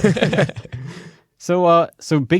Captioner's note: laughter